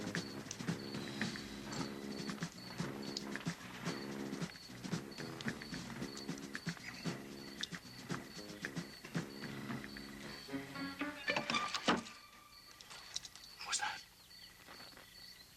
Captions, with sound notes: (flask clanking) - What was that?